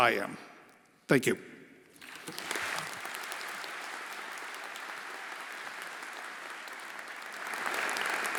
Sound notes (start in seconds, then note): 2.0 everyone applauding